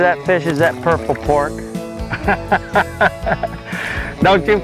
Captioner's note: laughter